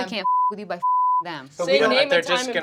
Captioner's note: beep